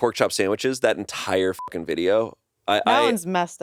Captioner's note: beep